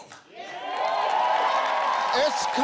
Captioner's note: audience cheers